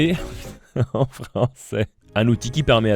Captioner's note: moking french name